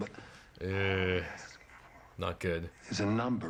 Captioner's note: groans